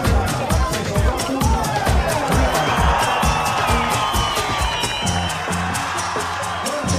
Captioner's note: audience cheering